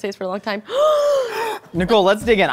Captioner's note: gasps